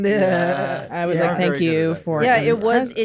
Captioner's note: laughter; in normal voice